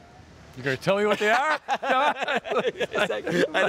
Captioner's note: laughing